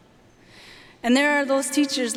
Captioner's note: none